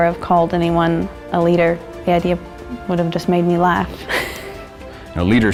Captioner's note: laughs